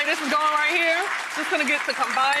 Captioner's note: applause